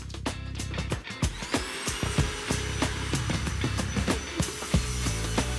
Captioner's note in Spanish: Ruido de la aspiradora